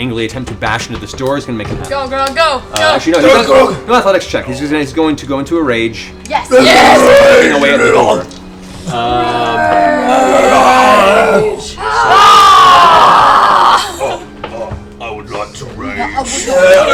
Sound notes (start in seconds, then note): 8.9 growling; 13.5 Grog voice